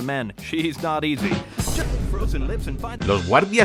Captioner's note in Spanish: risas de los guardias